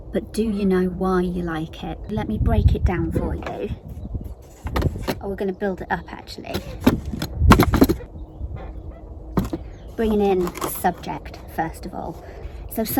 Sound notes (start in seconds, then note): 4.6 board clacking; 7.6 hands thumping